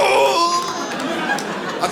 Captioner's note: audience laughs